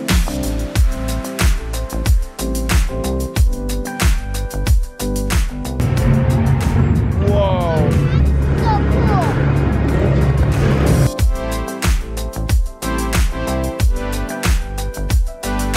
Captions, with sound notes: (engines rumbling) Whoa! - So cool! (upbeat electronic music)